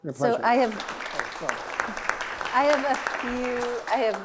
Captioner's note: audience claps